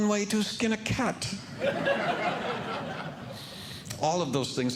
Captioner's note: audience Laughing